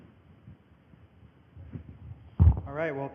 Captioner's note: microphone noises